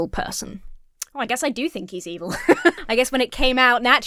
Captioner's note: laughs